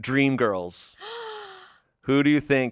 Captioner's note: gasps